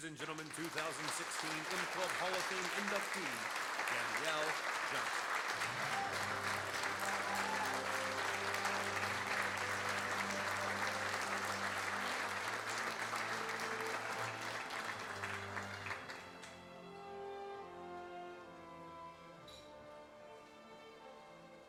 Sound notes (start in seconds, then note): 5.8 applause; 7.3 dramatic orchestral music